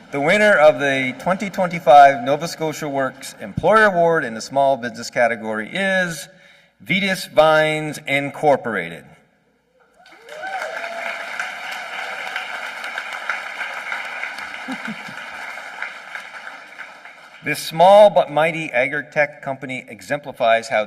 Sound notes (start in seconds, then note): 10.0 applause